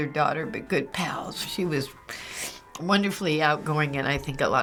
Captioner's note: sniffles